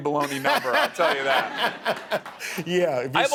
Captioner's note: laughing